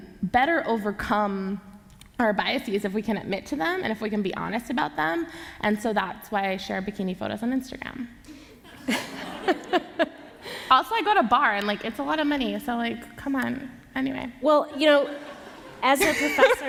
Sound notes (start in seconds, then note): 8.6 laughter; 14.7 laughter